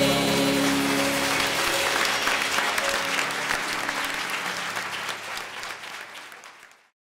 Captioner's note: appaluse